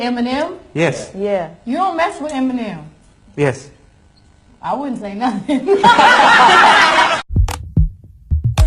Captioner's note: laughing